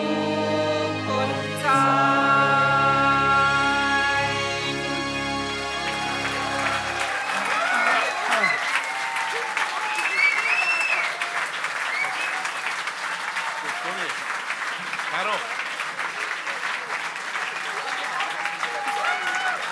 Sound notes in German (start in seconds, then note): 5.7 Applaus